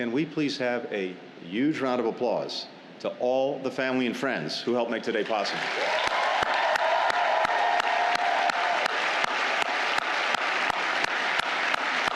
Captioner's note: cheers